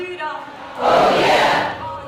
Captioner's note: crowd Yells